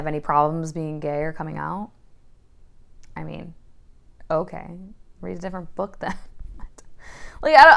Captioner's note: quietly